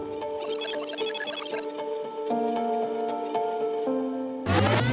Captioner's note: electronic glitch